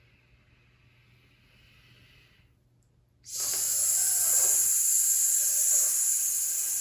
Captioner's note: instructor inhales and hisses